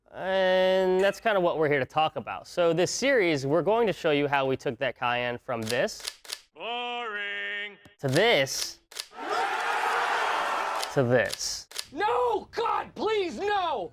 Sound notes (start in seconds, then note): 5.6 camera shutter snapping; 8.5 camera shutter snapping; 9.1 office workers cheering; 11.2 camera shutter snapping